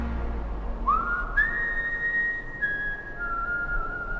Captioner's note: man whistles